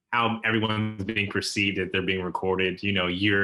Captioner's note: laughs